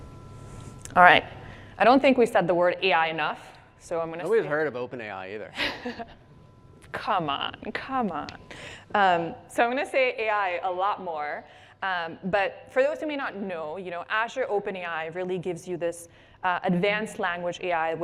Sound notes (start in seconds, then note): 7.2 laughs